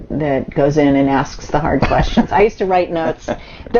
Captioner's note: laughs